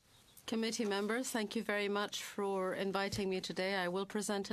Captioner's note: speaking in French